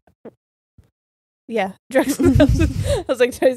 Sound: giggles

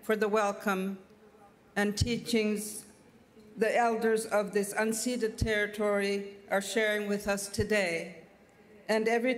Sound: speaking French

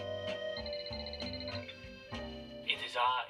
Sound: phone rings on TV; in English

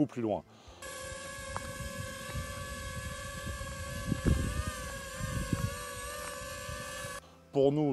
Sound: drone motors sound

